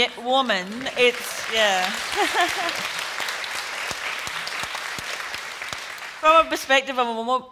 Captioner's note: applause